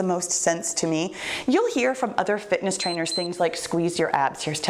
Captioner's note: timer beeps